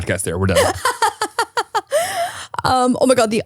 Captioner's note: laughs